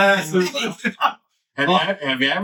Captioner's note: laughing